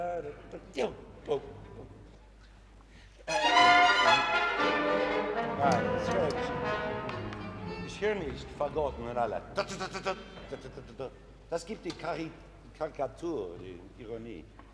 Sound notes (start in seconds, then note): 3.2 orchestra playing; 6.1 orchestra stopping; 8.1 speaking foreign language